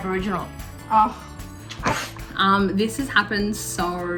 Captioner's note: sighs